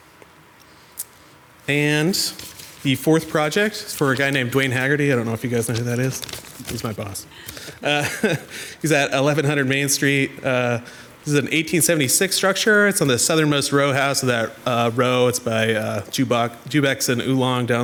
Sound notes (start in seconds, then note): 7.3 laughs